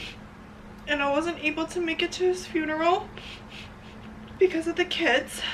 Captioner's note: sniffles